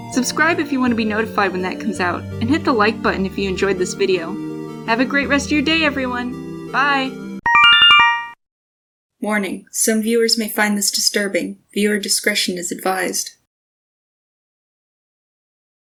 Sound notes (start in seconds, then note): 7.4 Yume Nikki instructions sound